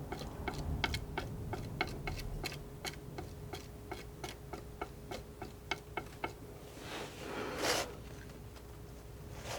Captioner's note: tapping